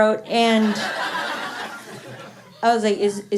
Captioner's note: laughter